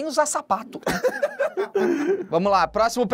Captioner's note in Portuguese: risadas